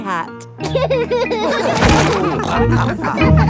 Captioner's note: all laughing